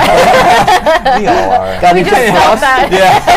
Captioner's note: laughter